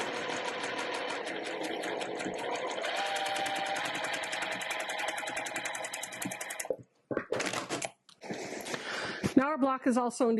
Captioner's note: sewing Machine Noises